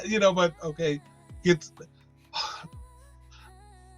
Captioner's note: sighs